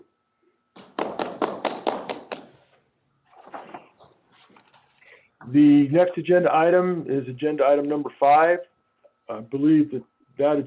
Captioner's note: applause